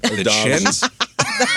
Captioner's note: laughing